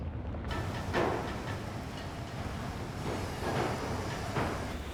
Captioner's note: machinery clanking